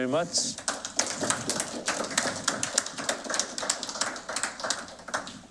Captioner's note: applause